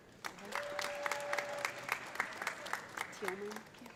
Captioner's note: audience applauding; audience cheering